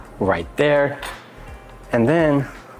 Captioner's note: tweezers clanging